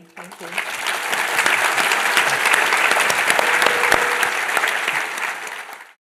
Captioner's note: applause